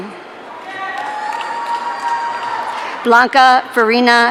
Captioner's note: audience cheering